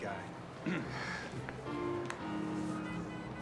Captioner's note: clears throat